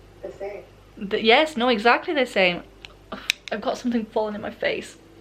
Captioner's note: sarcasm